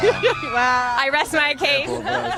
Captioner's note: crowd screams